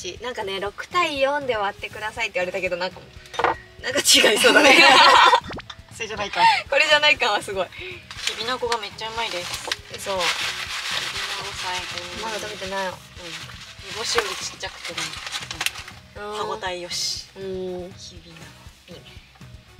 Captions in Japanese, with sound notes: I was told to split it 6:4. Sounds like something different (laughs). He wouldn't be expecting a Coke split (laughter). The kibinago is very tasty! Kibinago is the best! It is smaller and more chewy than dried sardines!